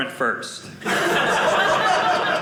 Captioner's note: audience laughing